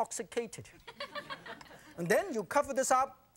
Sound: audience laughing

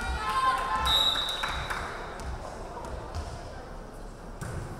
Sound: referee whistling

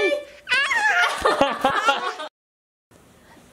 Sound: laughter

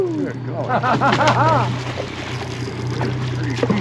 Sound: fish splashing; chuckling

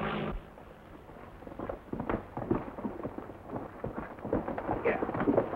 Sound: horse hooves clomping

